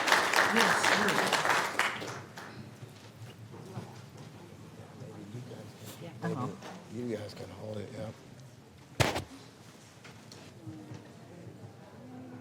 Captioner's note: applause